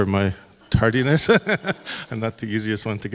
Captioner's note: laughs